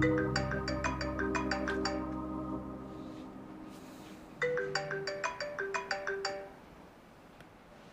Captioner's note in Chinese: 來電鈴聲